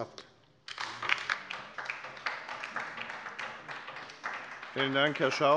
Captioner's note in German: Beifall bei der LINKEN